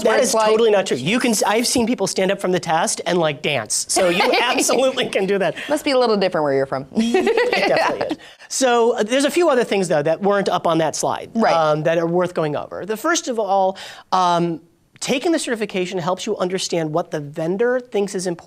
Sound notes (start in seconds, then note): 3.9 laughing; 7.0 laughing